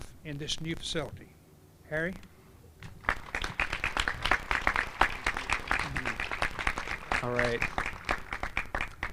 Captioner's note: applause